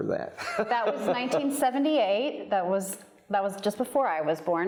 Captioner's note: laughs